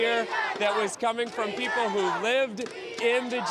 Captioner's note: chanting